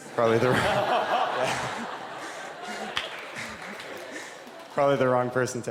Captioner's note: laughter